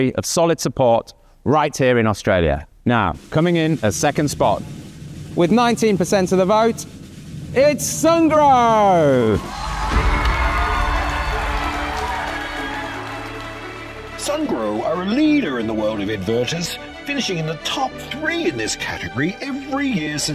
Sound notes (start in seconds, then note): 8.4 audience cheering; 9.5 bright music